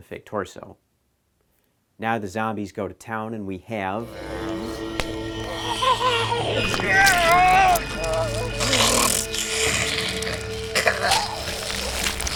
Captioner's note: ripping, sounds of agony